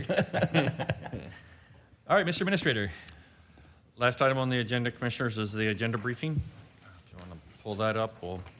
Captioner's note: laughter